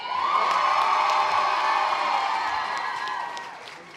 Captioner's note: audience applause